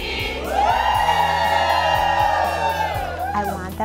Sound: cheers

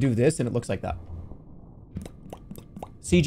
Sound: mouth popping sounds

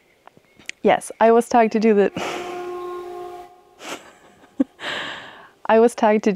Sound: train honks again

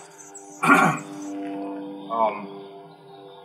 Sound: cough

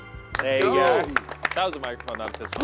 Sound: contestants clapping

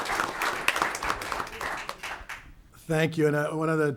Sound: audience clapping

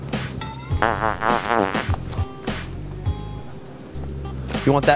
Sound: fart noise

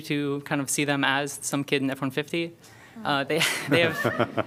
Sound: laughter

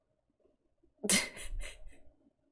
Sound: laughs

